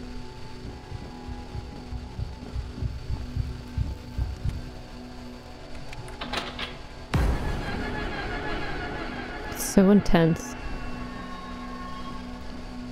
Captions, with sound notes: [Heart beat] It's so intense.